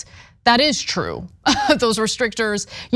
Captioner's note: laugh